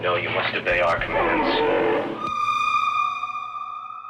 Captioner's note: Entity groans